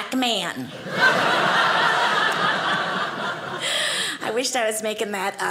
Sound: audience laughing

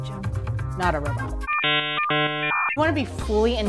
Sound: jarring electronic noise

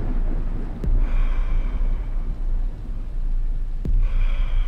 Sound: head thudding

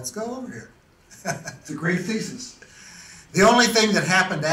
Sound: laughs

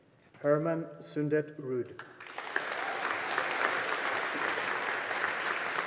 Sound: audience applauding

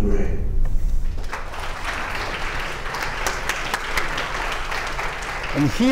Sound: applause

